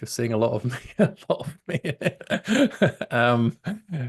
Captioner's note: laughs